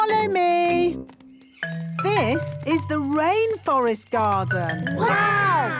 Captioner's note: rainforest sounds